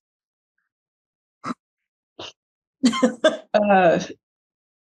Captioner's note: giggling